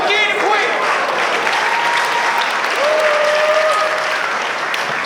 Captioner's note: spectators applauding